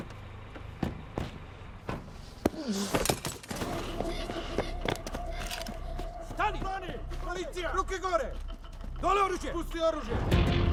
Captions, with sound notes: (doors clicking) (Nenad grunting) Stop! Stop! Police. Hands up. Put the gun down. Put it down.